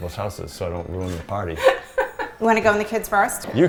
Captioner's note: laughs